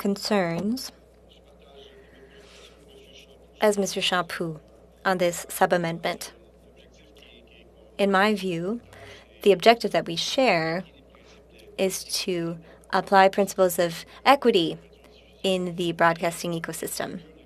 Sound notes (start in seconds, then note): 2.1 speaking French